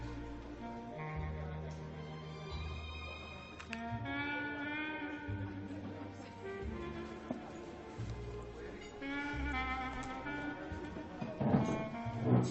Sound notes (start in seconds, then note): none